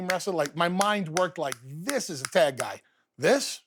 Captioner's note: fingers snap